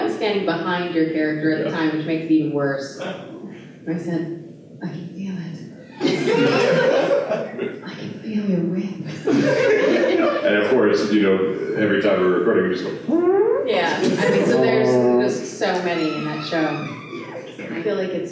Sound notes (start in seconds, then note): 5.9 laughter; 13.0 fart sound